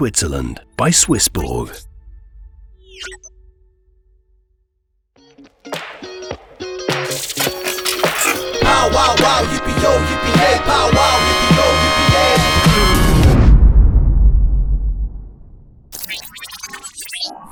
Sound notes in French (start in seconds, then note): 2.2 son robotique; 6.3 musique entraînante; 7.0 son robotique